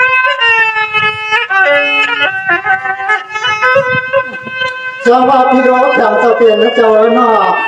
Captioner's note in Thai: เสียงหัวเราะ